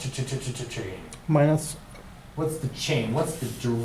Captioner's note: voiceover